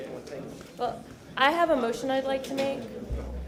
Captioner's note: sounding gavel